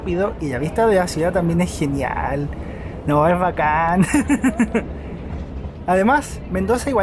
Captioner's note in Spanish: risas